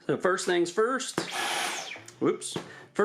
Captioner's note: vacuum turns on